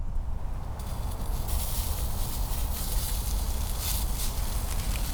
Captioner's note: sizzle